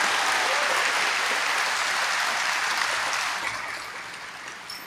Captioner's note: applause